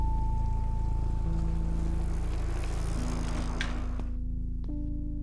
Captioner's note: bike rattling